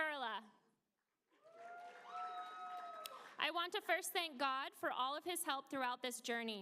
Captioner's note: applause